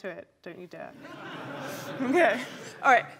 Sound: laughter

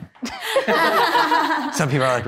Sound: participants laughing

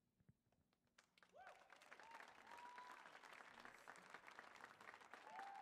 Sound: audience applauds

